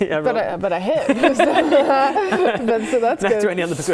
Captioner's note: laughing